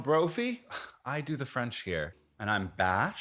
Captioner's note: scoffs